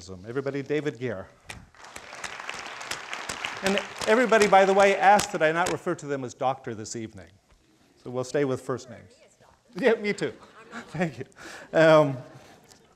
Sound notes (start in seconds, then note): 1.7 crowd applauding